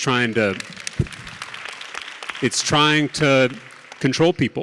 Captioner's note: audience clapping